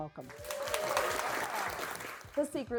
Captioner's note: contestants cheering